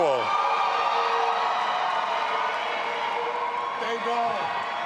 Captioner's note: audience applauding and cheering